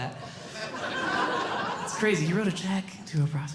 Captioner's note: audience Laughing